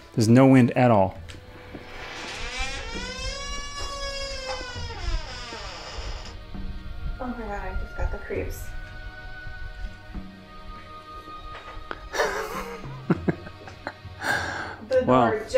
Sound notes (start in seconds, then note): 1.3 door creaking; 8.9 anxious music; 12.0 chuckles